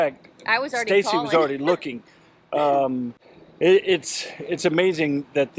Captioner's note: laughs